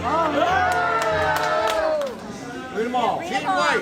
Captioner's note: crowd talking and clapping